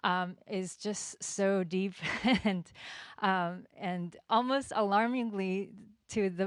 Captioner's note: chuckles